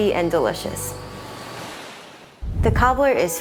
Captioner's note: graphic whooshes